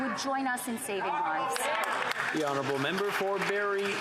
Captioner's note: yelling